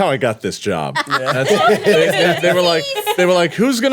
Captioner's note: laughing